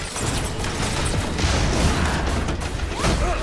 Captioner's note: glass shattering; lasers blasting; dramatic music